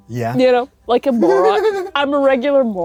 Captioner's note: giggles